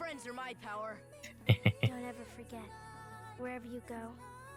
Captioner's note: laughs